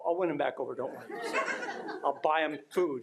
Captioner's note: attendees laughing